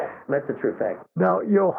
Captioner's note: guffahs